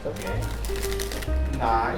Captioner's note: sounds of an even better card spring